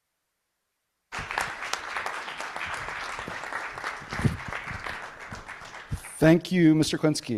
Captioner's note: applause